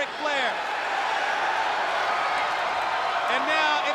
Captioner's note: spectators cheering